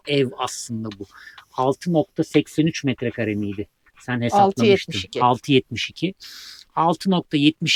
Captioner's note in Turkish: homurdanır